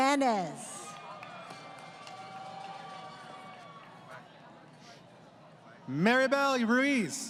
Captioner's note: crowd Cheering